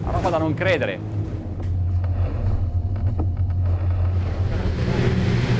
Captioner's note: water hitting boat